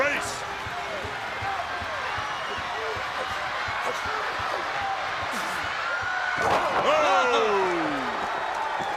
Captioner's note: crowd cheering